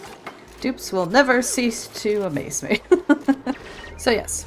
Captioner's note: laughs